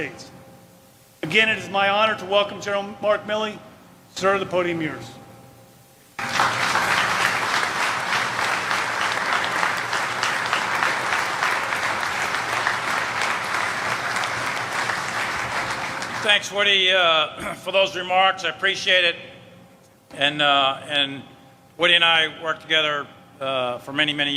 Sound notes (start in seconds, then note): 12.6 applause